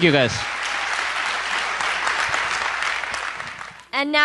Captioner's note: applause